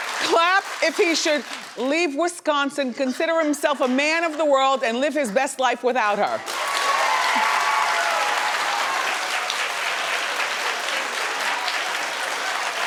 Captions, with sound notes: Clap if he should leave Wisconsin, consider himself a man of the world, and live his best life without her. (audience clapping) (audience cheering)